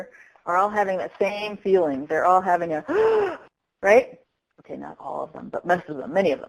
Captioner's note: sound of sucking in breath sharply